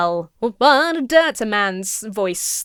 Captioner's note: imitates singer